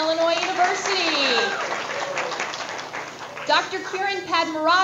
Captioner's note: audience applause